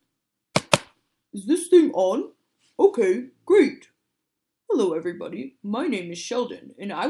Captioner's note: tap *tap